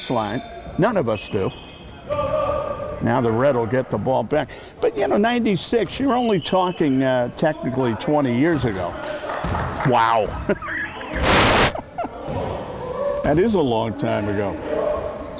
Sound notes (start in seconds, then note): 10.4 laughs